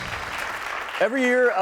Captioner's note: applause